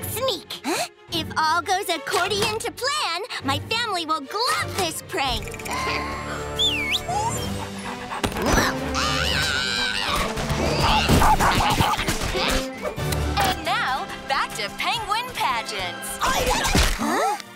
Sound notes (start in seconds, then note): 6.4 whistling; 8.9 screaming; 10.9 barking